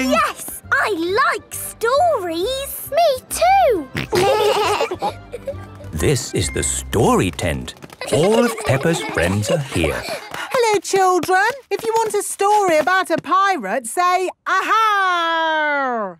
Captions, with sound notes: - Yes! I like stories! - Me too! - Grunt! Grunt! - (laughing) - This is the Story Tent. All of Peppa's friends are here. - (excited babbling) - Hello children! If you want a story about a pirate, say, "Ahaaaaarg!"